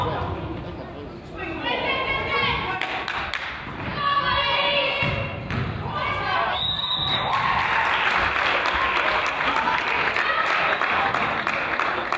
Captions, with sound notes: (player claps) - Come on, ladies. (whistle blows) (crowd applauds)